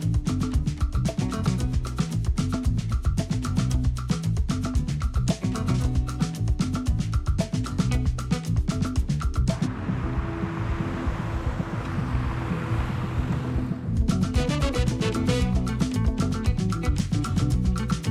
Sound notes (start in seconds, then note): 0.0 upbeat music continues; 9.4 traffic rumbles; 14.5 upbeat music continues